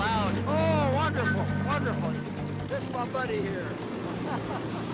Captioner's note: laughs